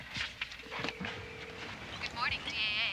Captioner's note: phone ringing